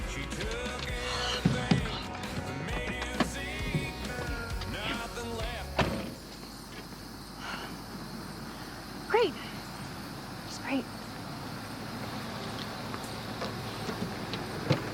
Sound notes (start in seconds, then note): 6.6 insects chirping; 12.2 insects chirping